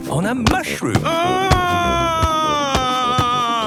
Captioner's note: shouting